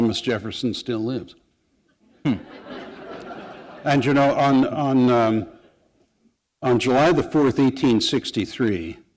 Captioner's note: laughter